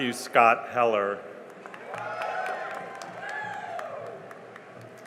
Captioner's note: cheering and applause